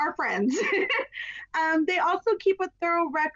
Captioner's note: laughs